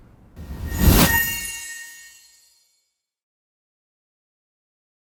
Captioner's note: swooshing